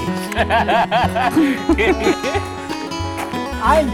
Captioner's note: clicking sounds; laughter